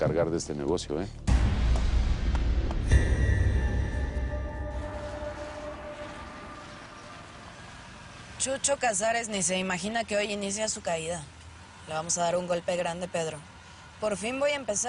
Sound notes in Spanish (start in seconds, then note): 2.2 Palmadas; 5.9 Ruido del auto